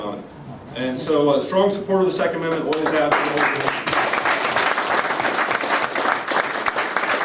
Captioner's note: applause